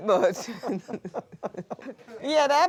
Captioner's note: laughter